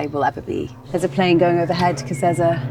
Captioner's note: plane buzzing